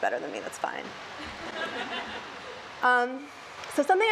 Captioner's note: laughs